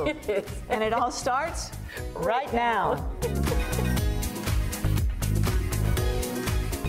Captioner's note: laughs; upbeat music